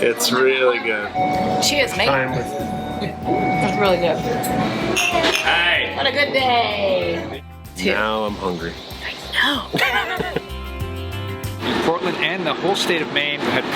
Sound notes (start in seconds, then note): 9.4 laughs